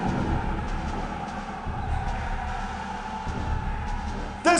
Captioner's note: crowd cheers